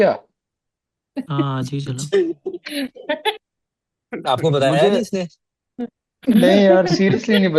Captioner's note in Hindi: हंसी